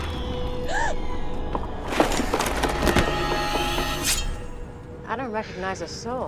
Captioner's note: gasps